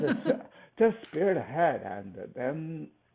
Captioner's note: laughs